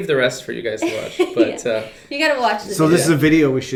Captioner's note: laughing